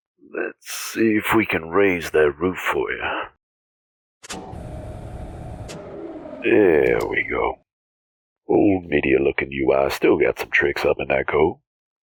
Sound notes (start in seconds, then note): 5.6 whirring sound then click